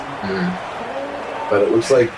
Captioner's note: crowd Noises